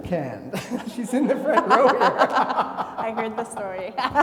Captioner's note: laugh